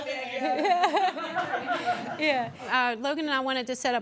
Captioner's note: members laughing